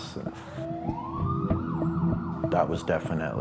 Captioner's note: sirens blaring